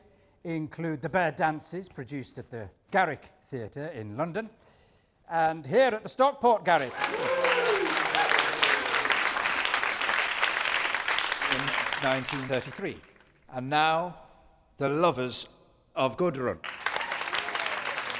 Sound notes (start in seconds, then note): 6.7 audience applause; 16.6 whoops & applause